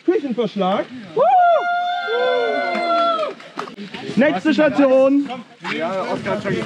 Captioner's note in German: Jubelnde Leiter